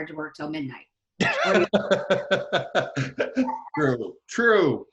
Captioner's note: laughing